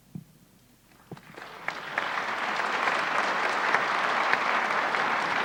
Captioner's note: audience applauds